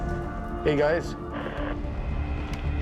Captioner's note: walkie hisses